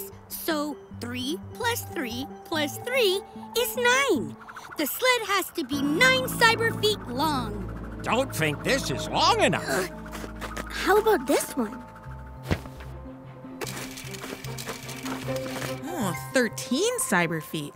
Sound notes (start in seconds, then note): 13.6 measuring tape clicks